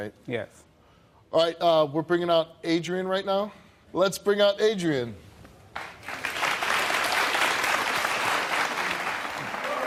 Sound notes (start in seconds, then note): 5.8 audience applauding